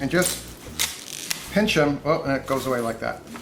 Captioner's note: kale snapping